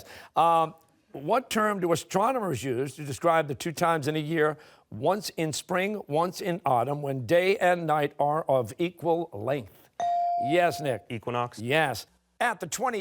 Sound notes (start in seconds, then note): none